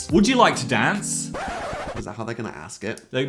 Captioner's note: tape stopping